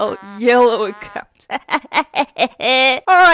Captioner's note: Gremlin Laughter